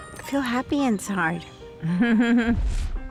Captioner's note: chuckles